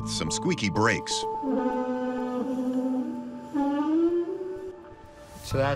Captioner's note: screeching